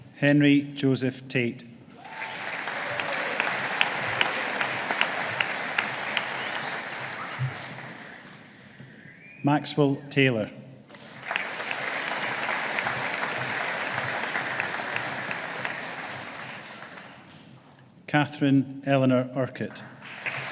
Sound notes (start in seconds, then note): 2.0 audience applauding; 10.9 audience applauding